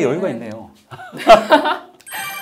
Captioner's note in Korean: 웃음